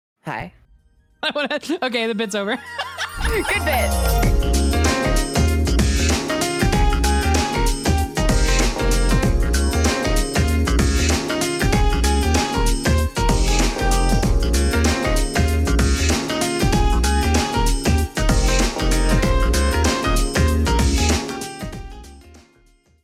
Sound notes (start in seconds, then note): 1.2 laughs